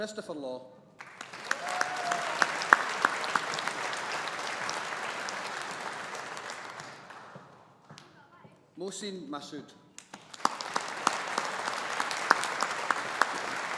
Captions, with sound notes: Kristofer Law. (AUDIENCE APPLAUDING) Mohsin Masood. (AUDIENCE APPLAUDING)